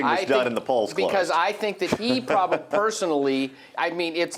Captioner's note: laughs